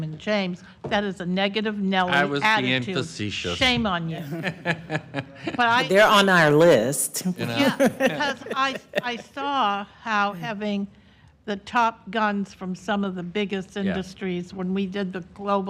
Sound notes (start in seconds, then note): 7.4 laughter